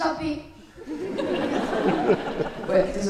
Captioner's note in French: rires